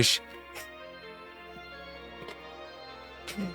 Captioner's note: giggles